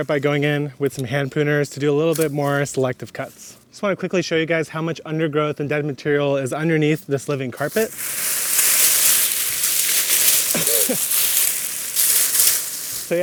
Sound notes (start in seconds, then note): 7.6 foliage rustles; 10.5 gardener laughs